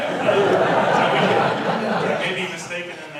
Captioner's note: audience laughs